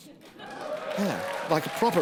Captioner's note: applause